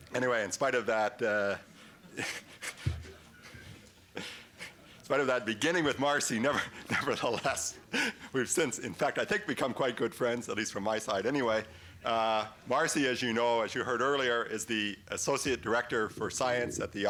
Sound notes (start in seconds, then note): 2.0 laughs